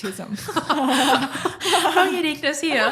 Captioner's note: both laughing